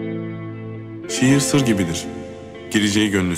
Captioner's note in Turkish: Sinan dış ses